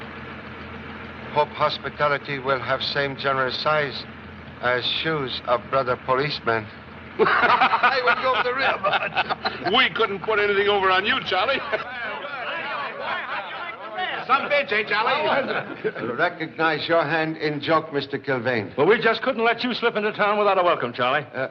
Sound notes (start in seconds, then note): 7.1 both Laugh; 11.8 men Shouting